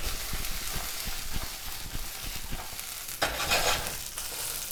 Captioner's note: food sizzling